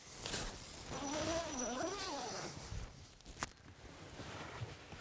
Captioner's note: tent zipping